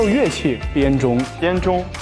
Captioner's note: chime bells